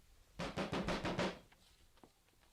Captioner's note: SFX: knocking on the door